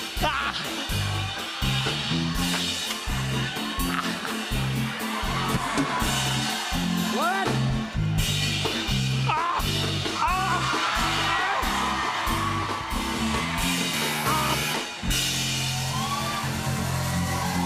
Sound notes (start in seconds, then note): 11.0 cheers and applause; 13.5 buzzer; 15.2 cheers and applause